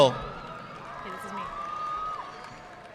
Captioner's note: audience clapping